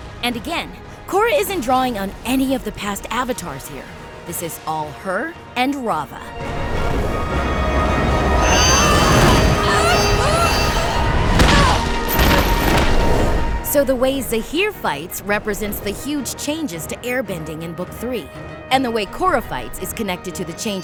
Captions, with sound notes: And again, isn’t drawing on any of the past Avatars here. This is all her and Rava. [groaning] [grunting] So, the way Zaheer fights represents the huge changes to airbending in Book Three. And the way Korra fights is connected